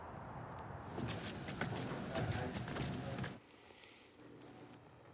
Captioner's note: footsteps thudding